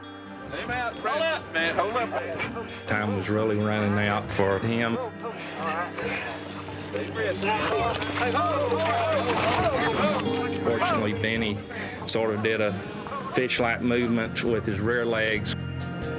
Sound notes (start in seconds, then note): 7.6 rescuers sighing; 8.5 rescuers exclaiming